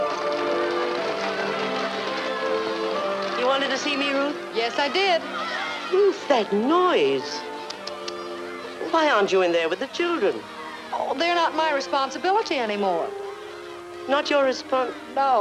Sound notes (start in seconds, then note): 1.0 children chattering